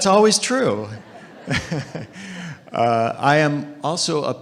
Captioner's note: audience laughing